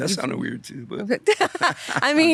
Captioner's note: both laughing